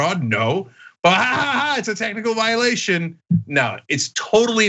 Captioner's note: laugh